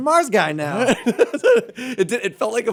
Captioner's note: laughter